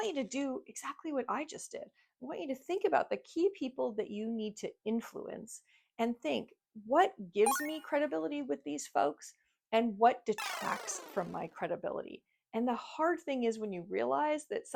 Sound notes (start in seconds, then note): 7.4 icon chiming; 10.4 icon beeping